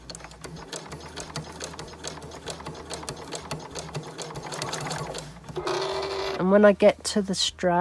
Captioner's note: machine Noise